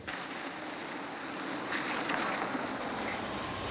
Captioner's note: car rumbles